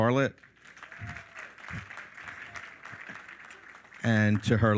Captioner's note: all applaud